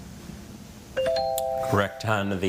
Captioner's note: text chiming